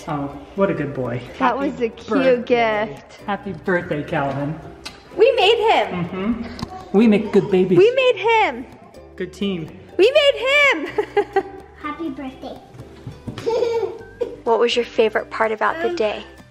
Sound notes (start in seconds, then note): 10.9 chuckles; 13.4 giggles